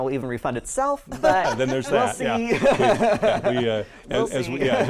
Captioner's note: laughs